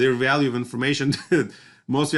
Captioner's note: laughter